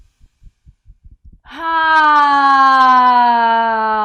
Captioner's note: sighs loudly